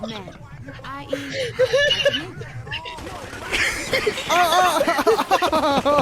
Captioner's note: gun firing